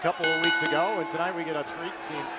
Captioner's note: bell ringing